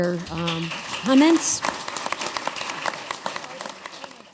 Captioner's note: applause